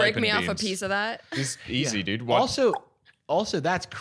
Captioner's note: clicks tongue